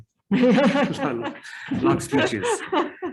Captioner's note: laughs